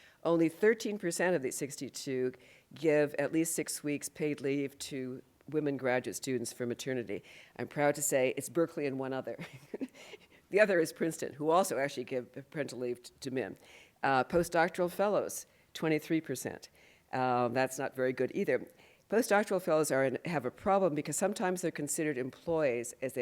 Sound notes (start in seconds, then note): 9.4 laughs